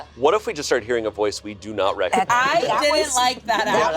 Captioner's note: group chattering